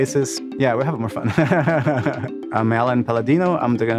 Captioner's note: laughs